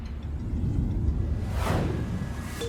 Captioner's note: whoosh